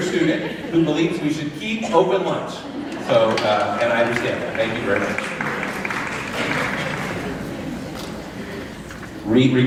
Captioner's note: laughter